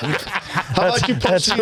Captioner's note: laughing